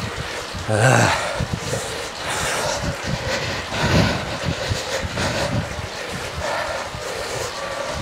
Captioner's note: breathing